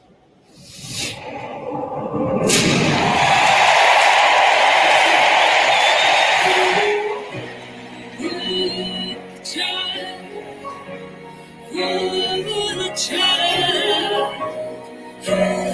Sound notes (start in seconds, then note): 0.5 air whooshes; 3.5 crowd cheers